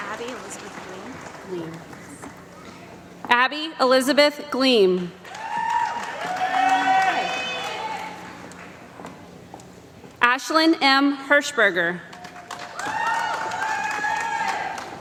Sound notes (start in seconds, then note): 5.2 applause; 14.0 applause